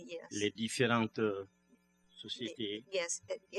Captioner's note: speaking french; speaking french